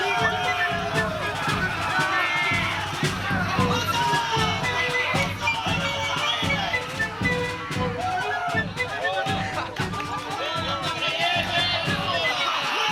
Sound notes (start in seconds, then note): 2.3 cheering